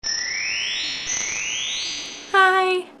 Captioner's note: chimes